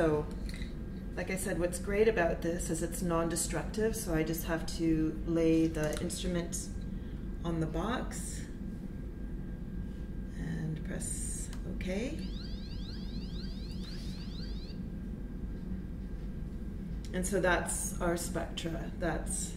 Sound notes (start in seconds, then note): 12.0 electric alarm sound